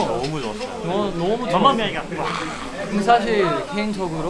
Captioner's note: the overwhelming cheers from the fans